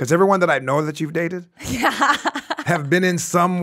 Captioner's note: laughs